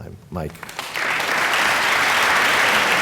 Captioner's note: applause